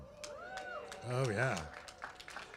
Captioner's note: applause